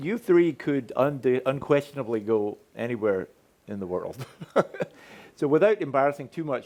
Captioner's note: chuckles